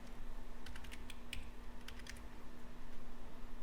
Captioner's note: typing